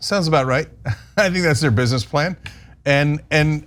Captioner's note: laugh